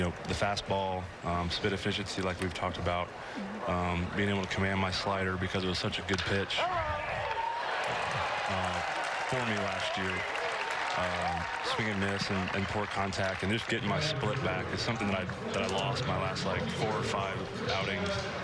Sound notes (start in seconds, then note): 10.2 cheers and applause